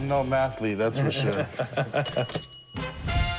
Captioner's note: cash register chiming